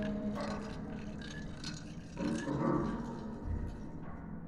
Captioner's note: ice clinking